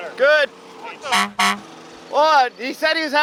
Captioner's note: honk honk